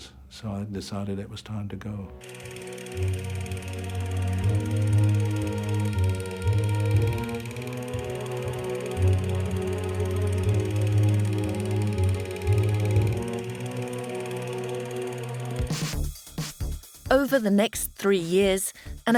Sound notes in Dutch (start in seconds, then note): 2.5 langzame muziek; 2.5 projector zoemend; 16.2 vrolijke muziek